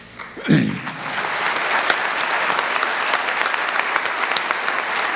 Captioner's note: audience clapping